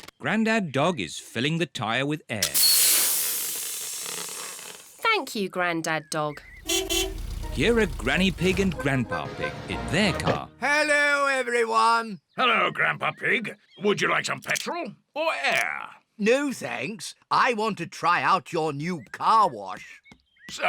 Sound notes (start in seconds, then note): 2.4 air hissing; 6.4 horn beeps